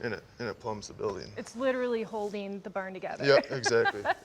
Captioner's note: laughs